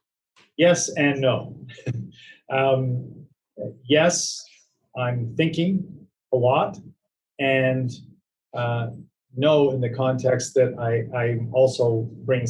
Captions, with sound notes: - Yes and no. (laughing) Yes I'm thinking a lot, and no in the context that I also bring something else